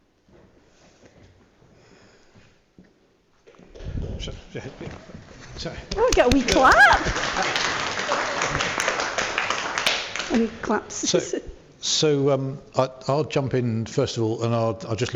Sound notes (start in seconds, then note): 8.8 applause